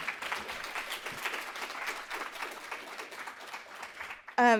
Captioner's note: crowd clapping